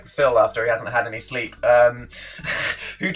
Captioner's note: laughs